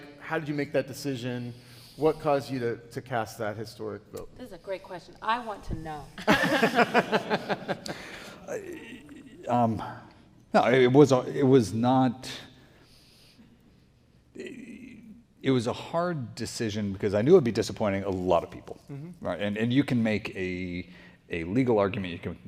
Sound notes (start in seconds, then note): 6.3 audience laughing